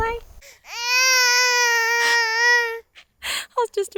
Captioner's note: baby crying